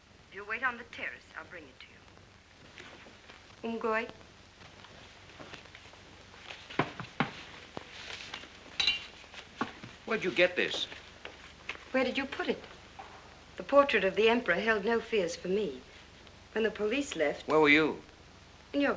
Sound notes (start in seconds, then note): 3.5 speaking in Chinese